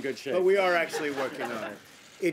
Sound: laughter

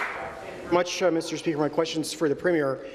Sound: applause

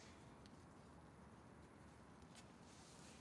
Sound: none

